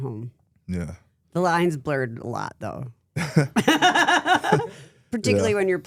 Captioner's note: laughs